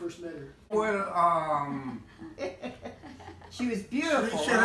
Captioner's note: laughter